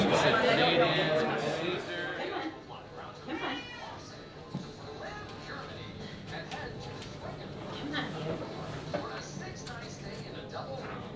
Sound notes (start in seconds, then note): 5.9 voices from TV